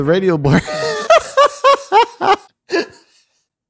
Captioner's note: laughing